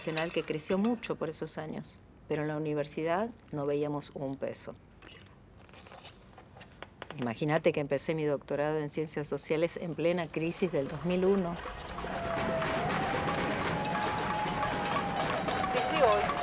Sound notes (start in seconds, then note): 14.3 applause